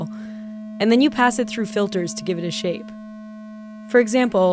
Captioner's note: single tone playing